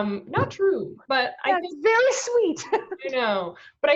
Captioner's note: laughs